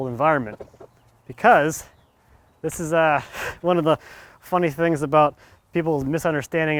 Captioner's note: chuckles